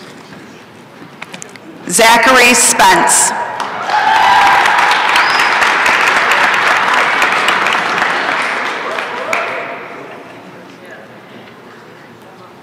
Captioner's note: applause and cheering